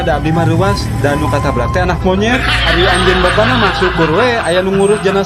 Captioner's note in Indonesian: tertawa